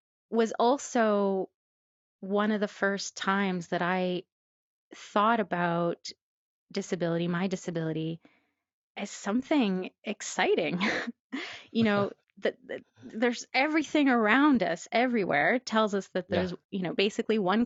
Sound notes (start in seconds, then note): 11.8 laughs